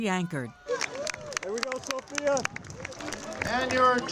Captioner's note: crowd